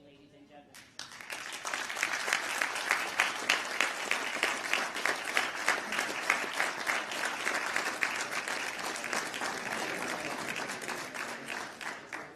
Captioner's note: applause